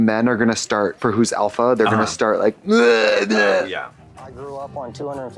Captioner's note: grunts